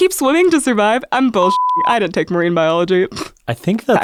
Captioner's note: beep